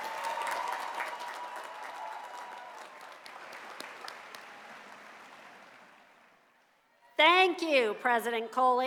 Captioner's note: cheers and applause